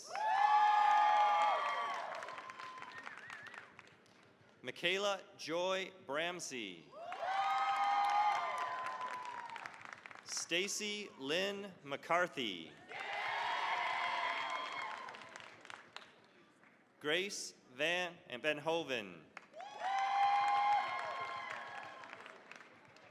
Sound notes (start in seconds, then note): 0.0 cheering, applause; 6.9 cheering, applause; 12.8 cheering, applause; 19.4 cheering, applause